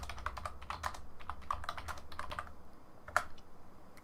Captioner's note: keyboard clacking